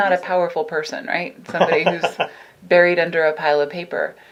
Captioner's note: laughing